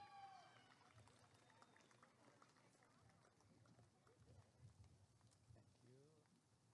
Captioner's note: applause and cheering